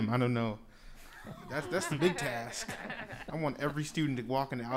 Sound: laughing

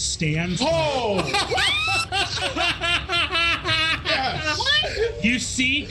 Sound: players gasping and laughing

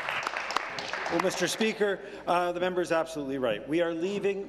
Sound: applause

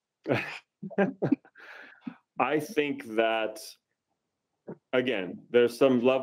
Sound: laughs

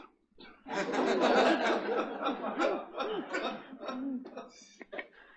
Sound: attendees laughing

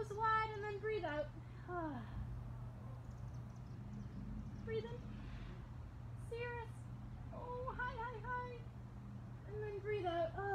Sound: exhales

